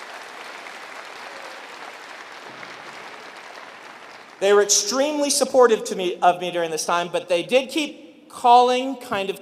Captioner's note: applause